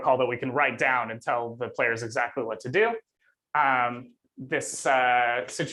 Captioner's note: none